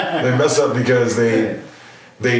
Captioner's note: laughing